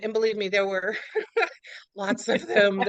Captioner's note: laughs